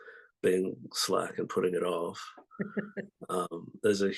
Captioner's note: laughs